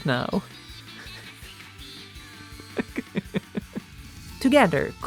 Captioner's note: laughs